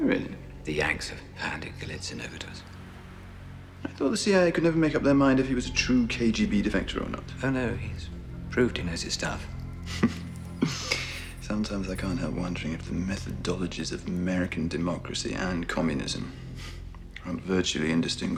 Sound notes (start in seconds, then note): 9.8 chuckling